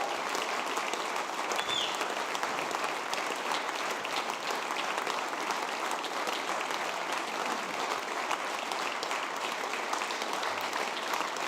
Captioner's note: cheers and applause